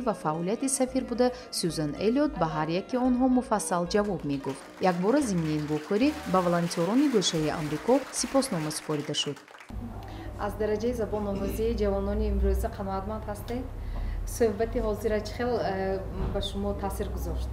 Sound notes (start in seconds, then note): 2.8 journalist narrating in tajik; 3.9 applause; 8.8 journalist narrating in tajik